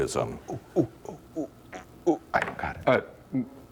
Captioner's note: whispering